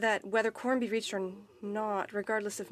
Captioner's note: speaking French